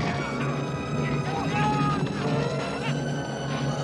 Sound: men yelling

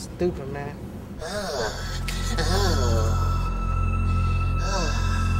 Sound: Adriel growling

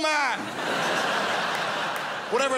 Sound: crowd laughs

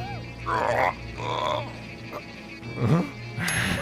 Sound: grunt; sassy laugh

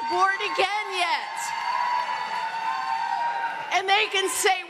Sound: audience cheering

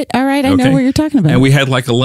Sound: laughs; guffaws

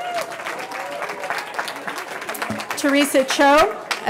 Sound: cheering

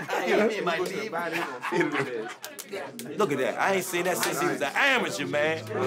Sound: laughter

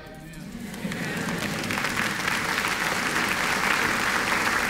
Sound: applause

